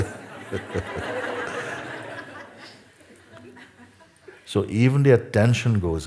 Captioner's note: Lachen